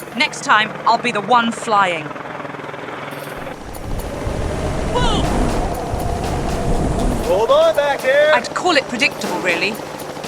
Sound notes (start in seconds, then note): 2.7 helicopter sounds ♫